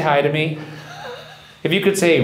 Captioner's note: laughs